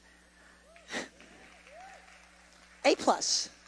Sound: congregation applauds and cheers

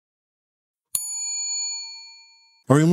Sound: bell dings

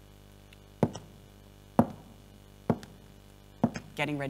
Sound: footsteps

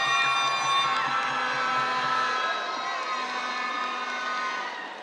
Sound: cheers, applause; air horn blaring

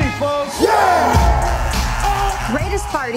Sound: cheering

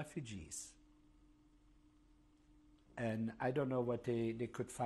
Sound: pauses for 3 seconds

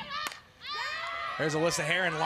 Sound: ball hitting bat

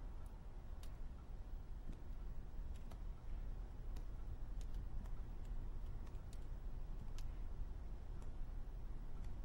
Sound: crackling wood fire

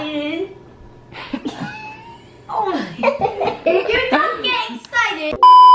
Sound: laughing

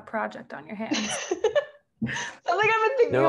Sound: laughing

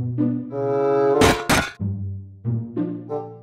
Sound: stomping

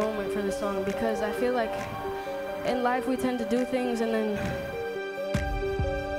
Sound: exhales

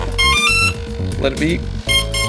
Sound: beeping

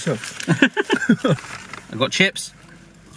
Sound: both laugh

